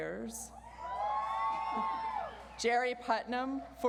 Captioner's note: audience cheers